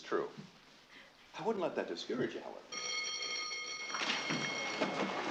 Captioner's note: bell Ringing